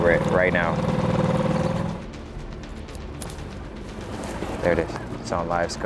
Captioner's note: motor droning; suspenseful music continues